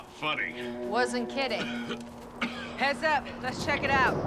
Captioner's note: coughs